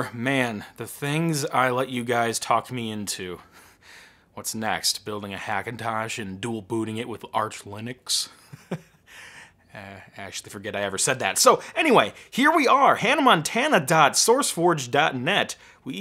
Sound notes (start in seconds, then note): 8.3 laughing